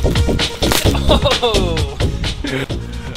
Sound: snapping noise

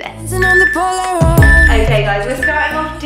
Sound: workout timer beeping

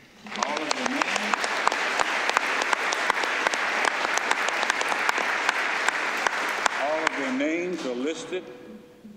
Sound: applause

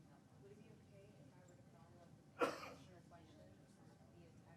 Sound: faintly speaking

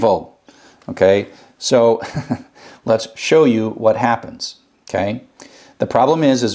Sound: laugh

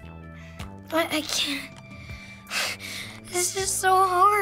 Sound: sharp breath

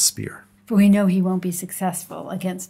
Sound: voiceover

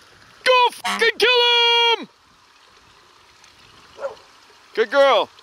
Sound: horn honks; dog barks

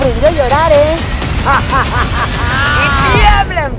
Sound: evil laugh

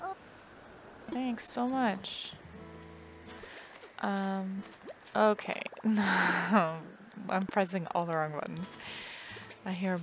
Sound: laugh

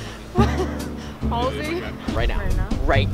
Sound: laughter

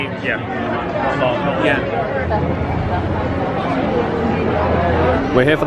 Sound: guest chatting

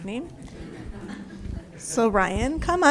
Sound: group laughs

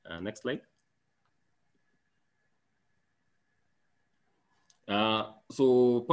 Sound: silent

